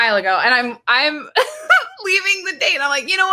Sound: laughs

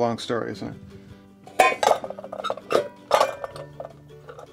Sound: metal clanking

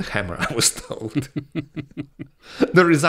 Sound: both laughs slightly

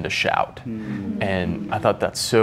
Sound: murmuring

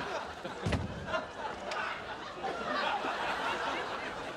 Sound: audience laughing; door shuts

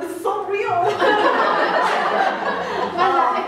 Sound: more laughter

